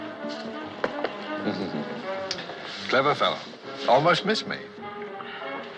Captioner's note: chuckling